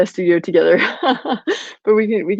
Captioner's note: laughing